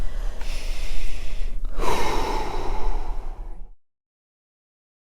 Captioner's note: breathes deeply